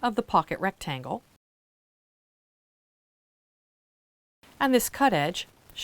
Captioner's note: no Sound Present